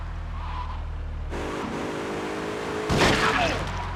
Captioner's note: tires screeching